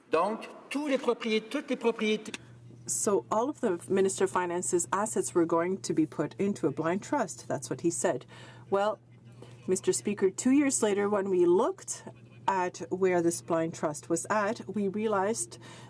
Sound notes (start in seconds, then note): 6.3 speaking French